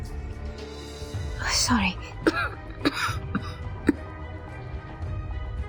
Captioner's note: cough